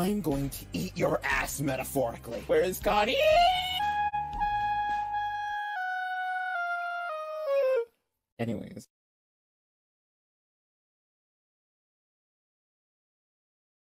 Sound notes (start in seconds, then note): 5.1 autotuned scream, decreasing in pitch